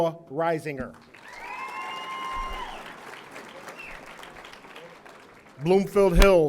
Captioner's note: audience applauding; audience cheering